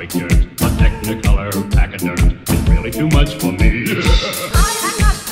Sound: ha ha ha ha ha

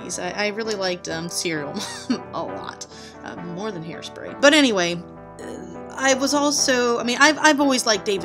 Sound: laughs

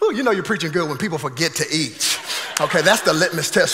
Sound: congregation laughing

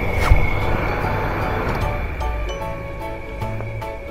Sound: laughs

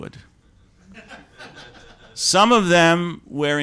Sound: laughter

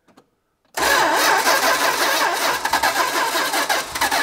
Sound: ignition stutters

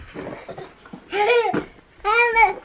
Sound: laughing

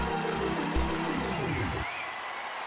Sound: cheers and applause

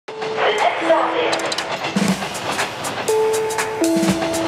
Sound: city street sounds

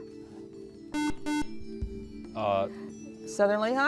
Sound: buzzer

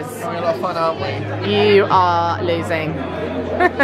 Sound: laughing

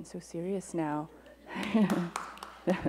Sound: applause

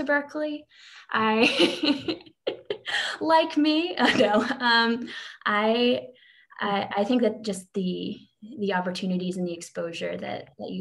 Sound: laughs

